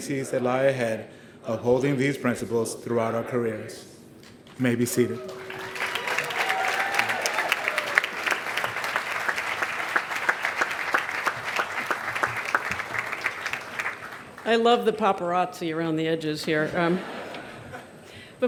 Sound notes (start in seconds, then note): 7.2 cheers and applause